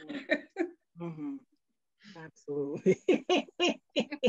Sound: laughs

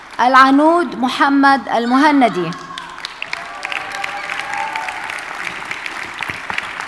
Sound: audience applauding

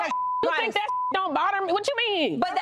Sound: beep

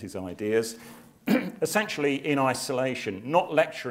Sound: cough

